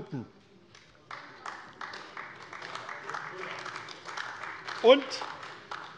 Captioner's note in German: Beifall AfD